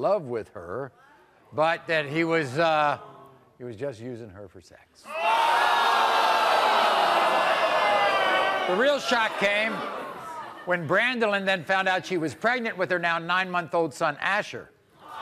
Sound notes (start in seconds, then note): 5.0 crowd jeers